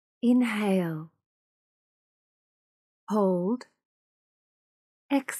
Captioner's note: automated voice